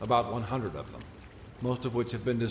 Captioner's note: none